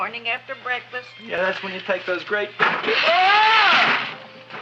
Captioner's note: screams